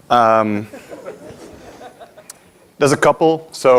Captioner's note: audience laughing